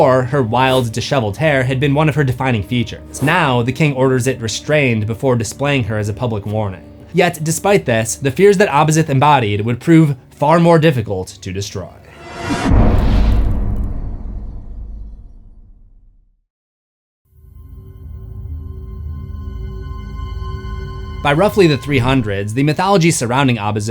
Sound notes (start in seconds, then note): 12.2 impact